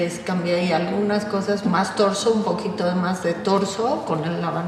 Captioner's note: speaks Spanish